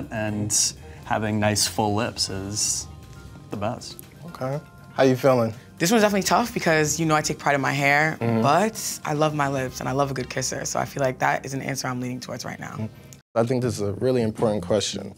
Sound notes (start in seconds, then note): none